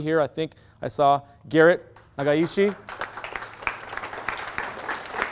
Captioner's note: clapping